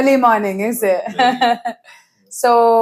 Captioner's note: laughs